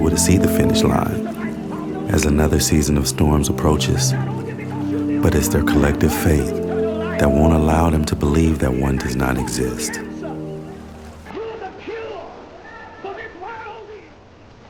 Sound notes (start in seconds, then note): 11.2 man preaching